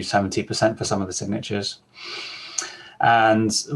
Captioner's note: exhales